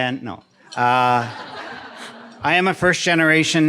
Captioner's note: audience laughing